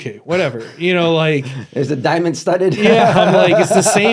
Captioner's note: laughs